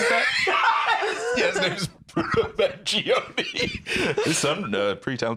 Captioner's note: laughing